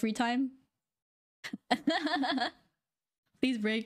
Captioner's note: laughing